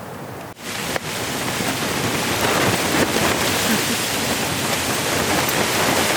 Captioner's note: wind rustling the tent